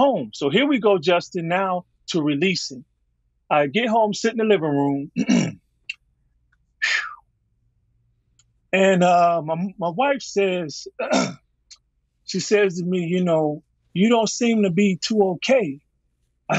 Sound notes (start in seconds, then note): 6.8 exhaling; 11.0 clearing throat